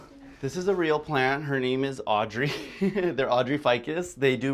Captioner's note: laughs